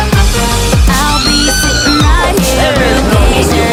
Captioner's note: Sweet Polly Screams